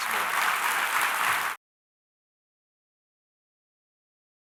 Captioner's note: audience applauding